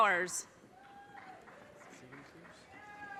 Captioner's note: audience cheers and applause